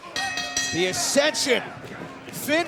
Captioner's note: bell ringing